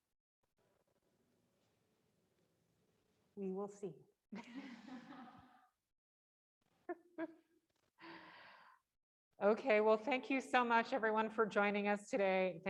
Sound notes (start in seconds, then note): 4.4 chuckle